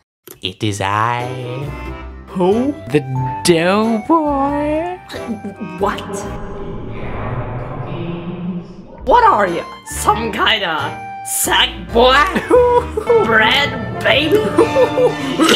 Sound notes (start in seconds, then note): 7.8 muffled, horrifying voice